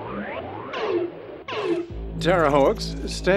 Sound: electronic beeping

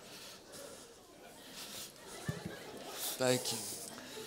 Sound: laughter

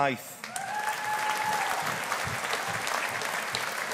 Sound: audience applauding

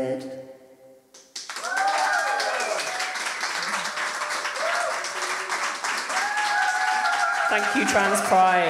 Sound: audience cheering

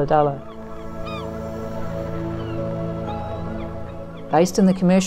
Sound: seagulls mewing

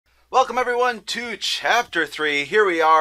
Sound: voiceover

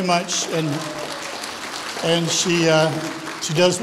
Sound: audience applauds

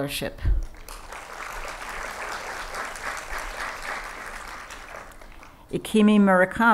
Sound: applause

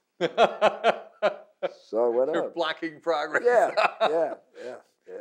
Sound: laughing

